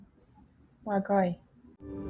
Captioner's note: speaking foreign language